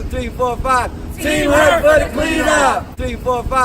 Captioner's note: crowd